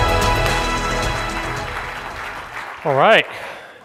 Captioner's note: audience applauds